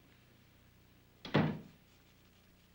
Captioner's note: door closes